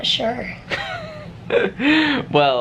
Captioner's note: chuckling